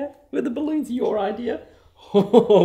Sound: laughing

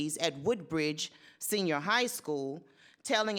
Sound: none

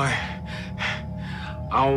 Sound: breathing intensifies

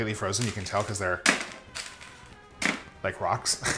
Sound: thuds; chuckles

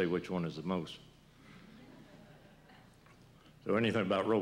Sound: laughter

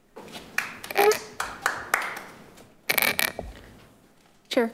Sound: group clapping

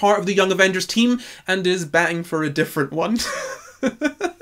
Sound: laughs

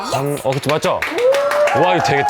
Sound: whoo!!!!!

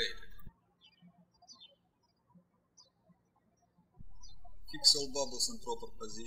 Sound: birds chirping

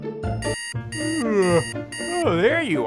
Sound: alarm beeping; yawning

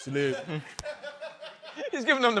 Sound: laughter

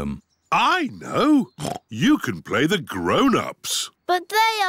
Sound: oinks

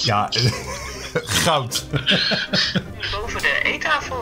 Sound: laughs

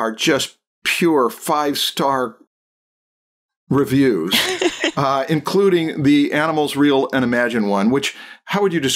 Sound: laughter

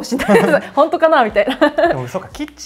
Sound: laughter

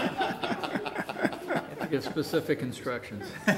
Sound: audience laughing

